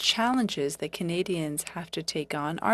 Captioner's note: speaking French